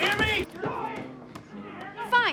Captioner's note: pounding